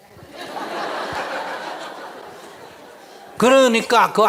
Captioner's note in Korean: 청중 웃음